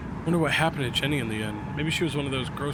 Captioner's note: none